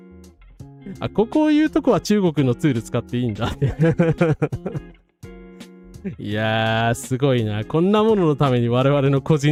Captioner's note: laughs